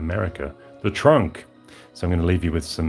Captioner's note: American accent